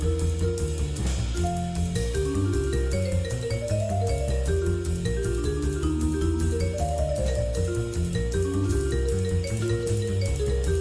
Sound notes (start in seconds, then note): none